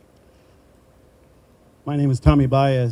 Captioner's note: none